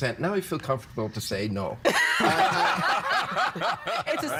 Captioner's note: all laughing